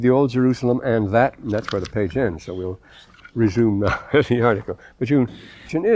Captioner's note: laughter